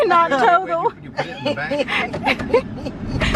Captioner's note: laughing